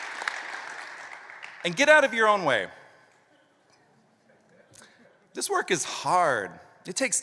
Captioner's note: applause